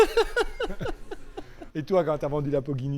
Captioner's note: laughters